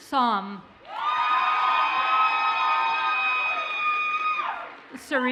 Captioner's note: audience cheers and applauds